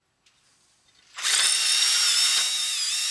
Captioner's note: drilling noise